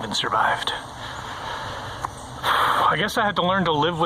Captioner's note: sighs